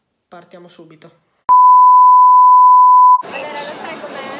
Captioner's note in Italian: Beep